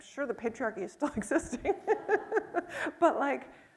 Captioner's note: chuckles